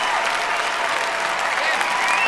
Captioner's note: cheering